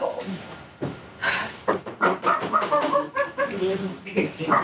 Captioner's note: knocking on door